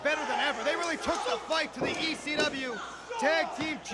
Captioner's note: crowd chatter